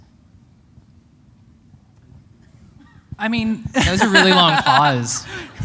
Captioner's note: laughter